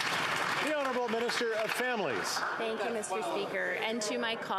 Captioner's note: applause